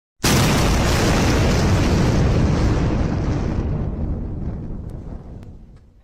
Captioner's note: boom!